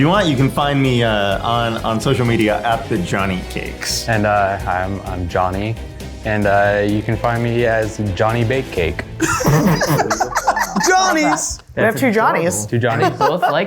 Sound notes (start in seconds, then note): 9.2 laugh